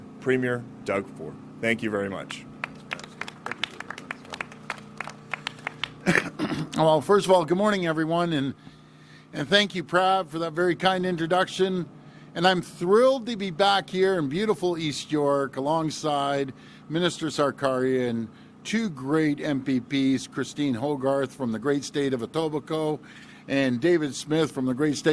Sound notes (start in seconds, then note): 4.2 applause